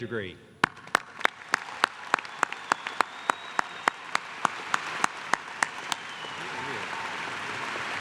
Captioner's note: applause